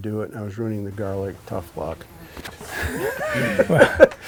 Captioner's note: laughs